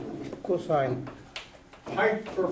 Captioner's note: voiceover